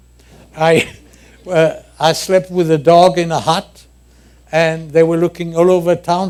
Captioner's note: laughter